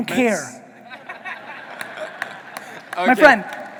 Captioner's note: audience laughing